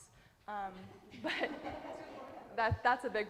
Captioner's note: audience laughing